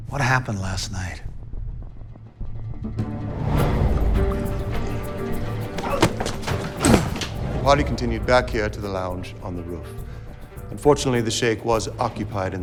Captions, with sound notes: What happened last night? (dramatic music) (Wags grunting) - Harley continued back here to the lounge on the roof. Unfortunately, the sheikh was occupied